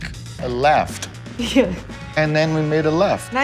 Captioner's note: laughs